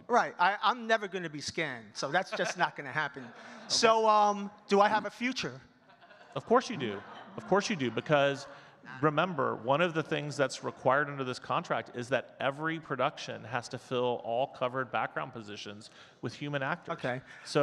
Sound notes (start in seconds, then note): 6.1 audience laughing